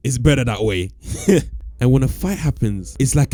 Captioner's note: laughs